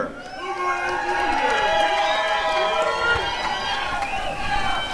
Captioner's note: applause and cheering